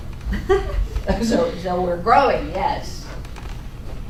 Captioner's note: laughing